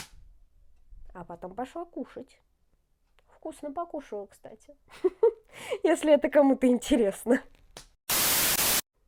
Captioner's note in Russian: смех